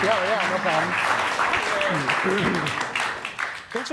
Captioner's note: audience clapping